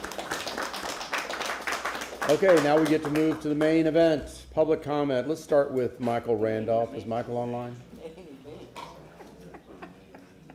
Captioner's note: applause